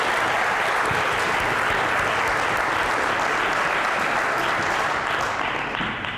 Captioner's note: applause; applause, cheering